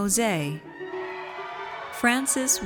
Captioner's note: audience cheers